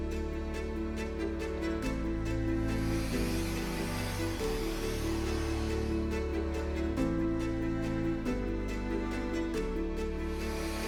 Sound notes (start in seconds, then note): 2.6 tool humming; 6.5 gentle music continues